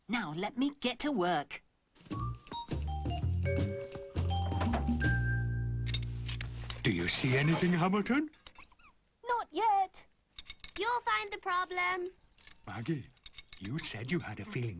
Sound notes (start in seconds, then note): 1.8 clanking; 8.3 squeaking